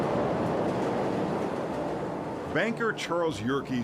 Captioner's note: train gently rumbles